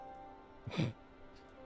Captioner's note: laughing